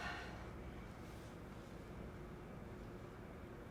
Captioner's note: Cynthia sighs